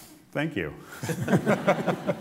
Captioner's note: laughter